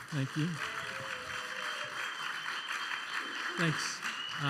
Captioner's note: applause